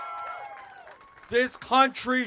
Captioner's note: cheers